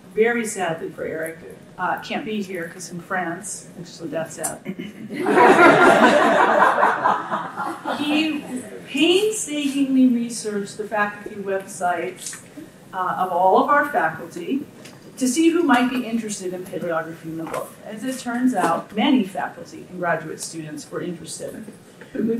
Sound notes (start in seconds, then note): 5.1 audience laughing